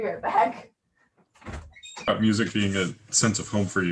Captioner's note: door opens